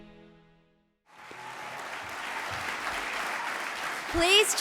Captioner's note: audience applauds